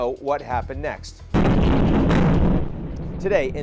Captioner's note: explosion blasts